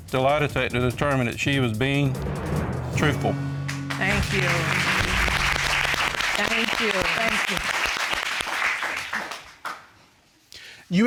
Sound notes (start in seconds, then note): 3.6 applause